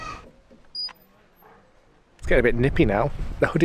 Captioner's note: squeaky gate